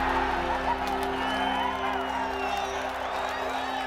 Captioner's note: crowd Cheers